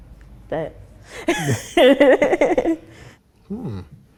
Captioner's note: both laugh